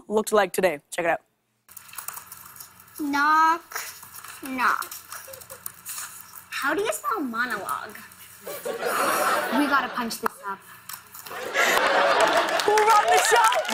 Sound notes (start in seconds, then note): 8.4 laughter; 11.3 laughter, cheers, applause